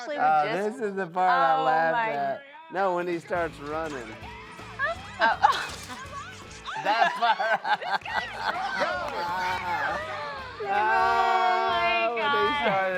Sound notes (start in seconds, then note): 6.6 all laughing